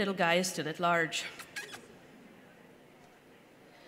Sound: makes “kissy noises” with their mouth

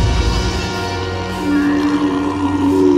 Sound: roaring

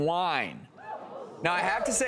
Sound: audience exclaiming

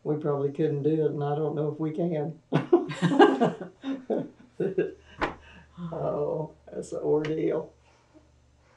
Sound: laughter

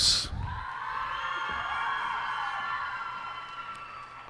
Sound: cheers and applause

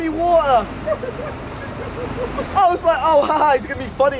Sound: laughing

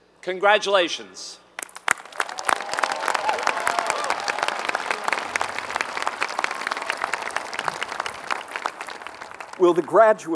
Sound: applause

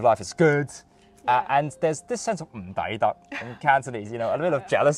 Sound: Cantonese

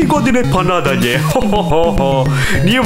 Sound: slight laugh

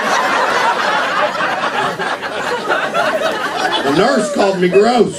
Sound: laughter

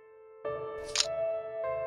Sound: click sound

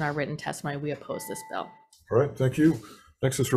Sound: bell dings

